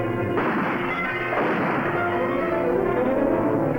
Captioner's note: gunfire blasting